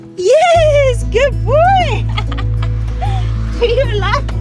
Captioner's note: laughs